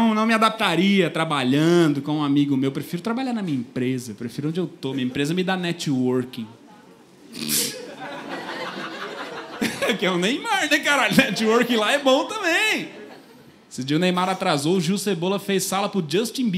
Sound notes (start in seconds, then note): 7.7 laughter